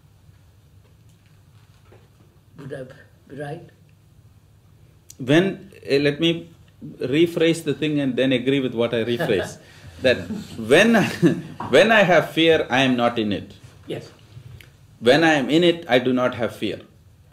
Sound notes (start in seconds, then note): 10.0 laughs; 10.9 laughter